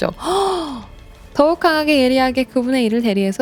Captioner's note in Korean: 헉 소리